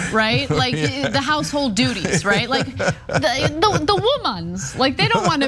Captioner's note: laugh